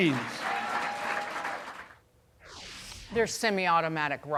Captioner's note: cheers and applause